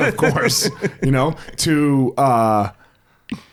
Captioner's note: laughs